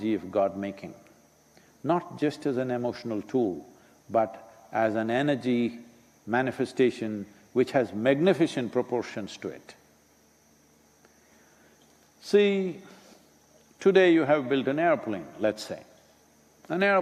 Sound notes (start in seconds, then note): none